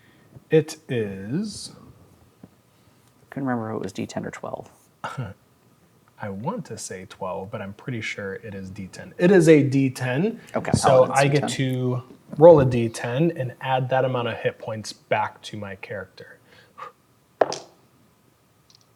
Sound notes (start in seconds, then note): 4.8 chuckles; 17.4 dice rolling; 17.4 blows on dice